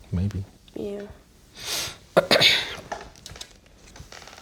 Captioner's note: sniffs; clears throat